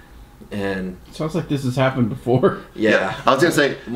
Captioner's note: laughs